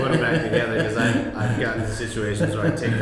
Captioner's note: laughs